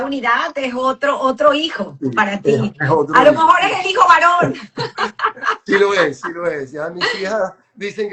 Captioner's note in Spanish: risas